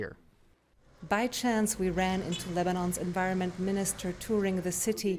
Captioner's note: voice-over